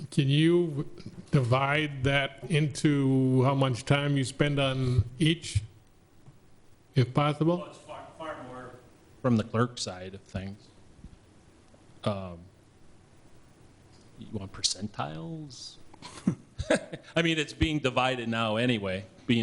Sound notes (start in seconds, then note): 16.0 laughs